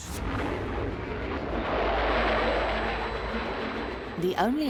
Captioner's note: tense suspenseful music; aeroplanes whooshing